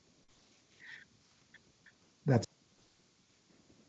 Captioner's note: radio interference drowns out speaker